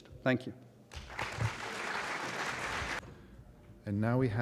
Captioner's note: applause